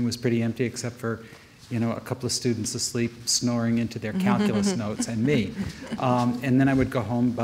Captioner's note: audience member chuckles